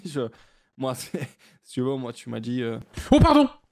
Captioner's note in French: il pouffe